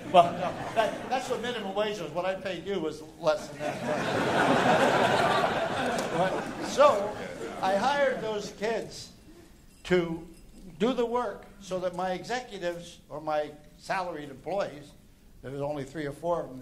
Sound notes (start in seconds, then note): 6.6 laughter